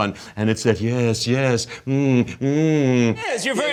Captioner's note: imitating muffling sound